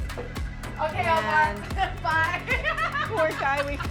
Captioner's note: laughs